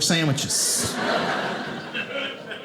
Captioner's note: audience laughing